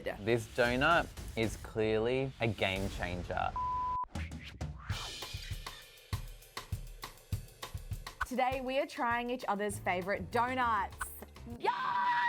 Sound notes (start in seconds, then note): 3.6 electronic beeping; 4.6 upbeat music